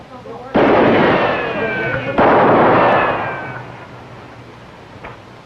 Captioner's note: shot firing